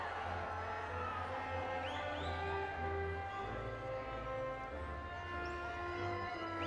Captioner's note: audience continues applauding and cheering